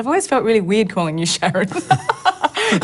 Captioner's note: laughs